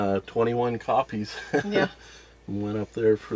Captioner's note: laughs